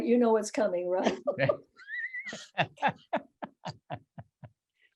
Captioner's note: laughing